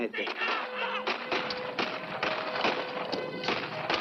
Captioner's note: bugle sounds, gunfire